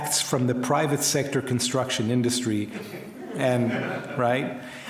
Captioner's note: crowd laughs